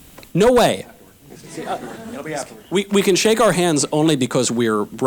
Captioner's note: audience laughter